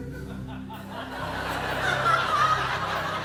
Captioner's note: laughter